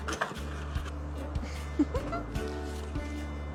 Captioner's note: giggles